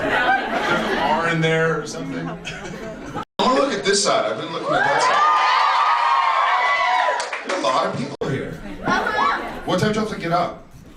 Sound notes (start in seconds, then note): 0.0 audience laughs; 2.5 laughs; 4.6 audience cheers and screams